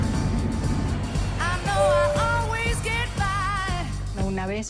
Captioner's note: PA chimes